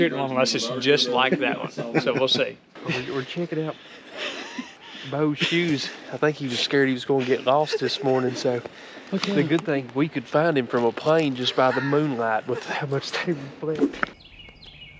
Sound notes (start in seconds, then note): 2.4 camera person laughs